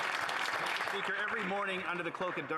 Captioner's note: applause